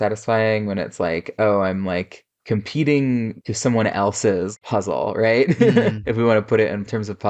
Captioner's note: laughs